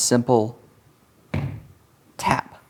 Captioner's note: stomps foot